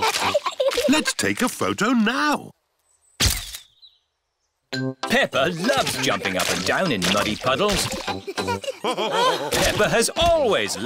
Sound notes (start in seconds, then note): 3.4 camera clicks; 8.8 all laughing